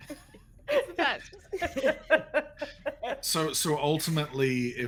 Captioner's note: people laughing